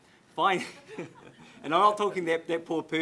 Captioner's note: audience laughs